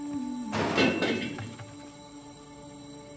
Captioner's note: ethereal music playing; wheel clattering